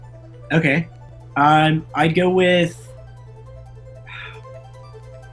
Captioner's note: sighs